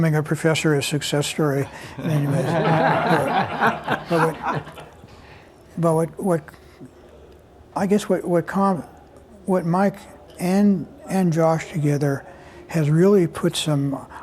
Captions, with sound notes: a professor a success story. [LAUGHTER] But I guess what Mike and Josh together has really put some--